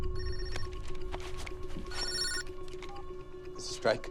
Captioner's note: phone ringing